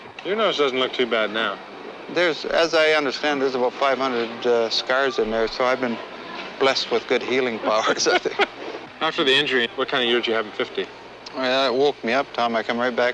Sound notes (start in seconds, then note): 7.6 both chuckling